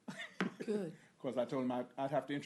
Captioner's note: laughter